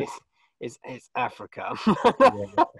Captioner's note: laughs